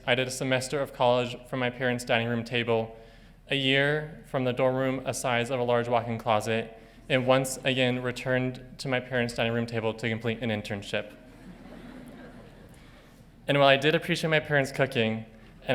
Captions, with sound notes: I did a semester of college from my parents' dining room table, a year from the dorm room a size of a large walk-in closet, and once again returned to my parents' dining room table to complete an internship. (audience laughing) And while I did appreciate my parents' cooking,